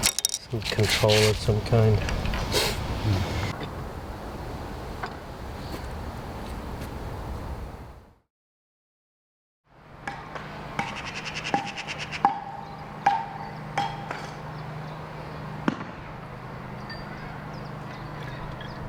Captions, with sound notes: Some control of some kind. (HAMMERING RINGS OUT)